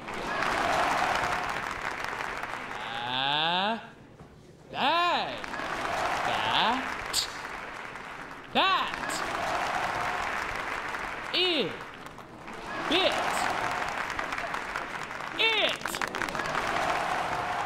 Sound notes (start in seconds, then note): 0.0 audience applauds; 5.5 applause; 9.0 applause; 13.5 applause; 16.5 applause